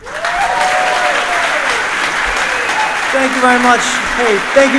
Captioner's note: audience applauding